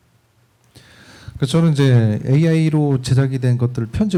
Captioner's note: speaking korean